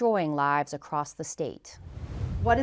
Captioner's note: logo swooshes